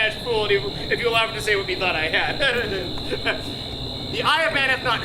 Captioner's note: laughs; laughs